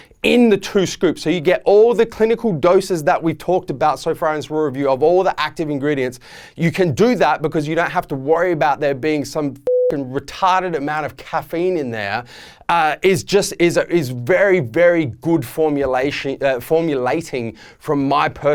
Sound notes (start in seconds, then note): 9.6 beeping